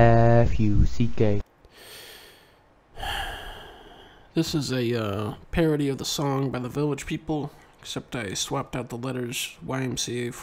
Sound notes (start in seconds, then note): 2.9 Dunkey takes a deep and painful sigh